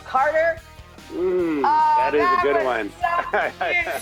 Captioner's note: chuckles